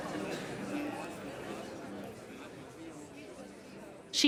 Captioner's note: party chatter fades